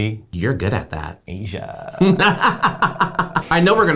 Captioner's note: laughs